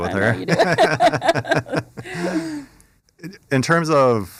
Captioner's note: laughter